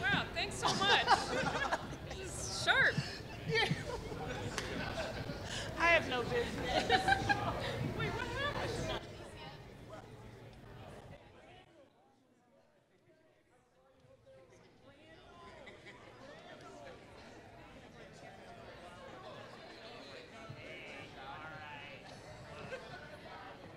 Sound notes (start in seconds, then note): 6.0 laughing; 8.8 chatter; 14.2 chatter